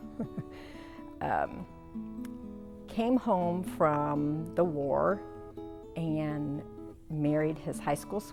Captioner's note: laughing